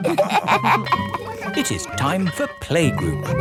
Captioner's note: all laughing; school bell ringing